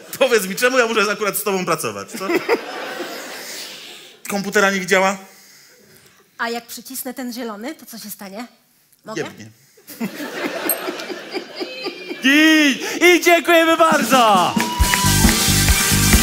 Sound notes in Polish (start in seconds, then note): 9.8 śmiech